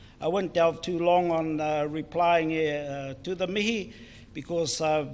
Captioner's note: foreign Language